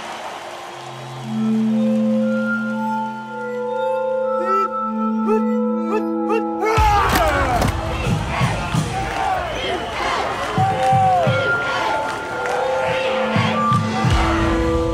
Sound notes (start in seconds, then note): 7.3 men grunting; 9.1 drums; 12.7 clapping